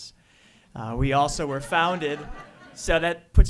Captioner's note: audience laughs